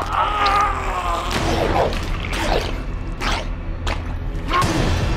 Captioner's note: body cracking; Gordon screaming; head whooshing; ooze squelching; tense suspenseful music